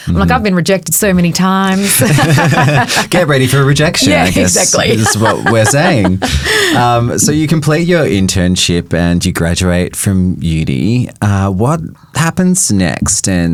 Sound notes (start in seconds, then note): 1.7 both chuckling; 4.8 chuckling